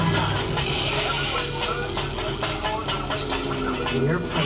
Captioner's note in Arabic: إنذارات مدوية